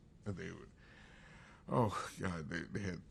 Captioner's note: sighs